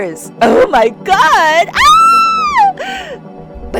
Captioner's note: fangirl squee